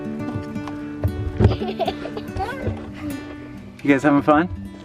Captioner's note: laughter